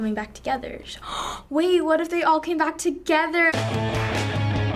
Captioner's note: gasps; punk rock intro